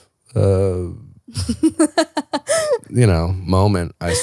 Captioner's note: laughing